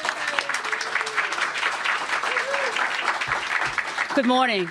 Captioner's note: applause